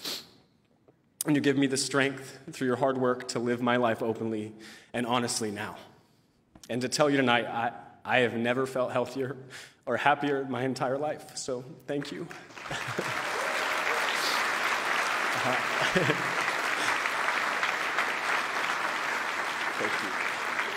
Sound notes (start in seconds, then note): 14.1 applause